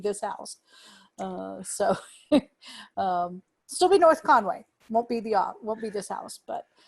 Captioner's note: laughter